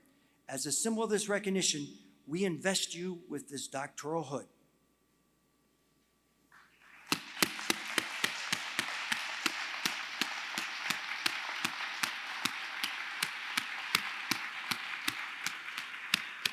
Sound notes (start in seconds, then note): 10.0 applause